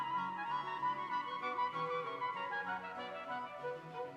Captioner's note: none